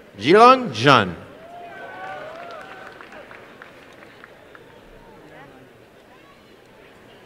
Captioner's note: applause and cheering